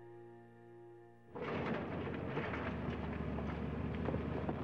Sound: rattling

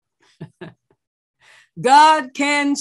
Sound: laughs

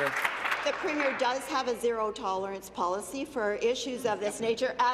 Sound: applause

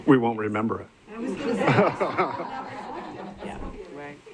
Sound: laughter

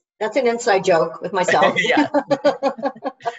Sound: laughs

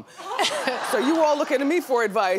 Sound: audience laughs

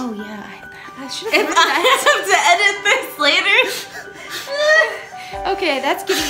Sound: laughs

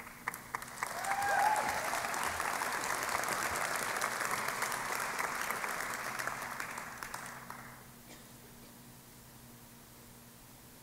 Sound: applause

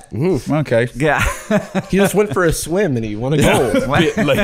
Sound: laughing

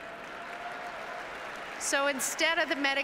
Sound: applauses and cheers

